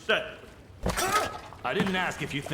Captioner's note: Sargon shouting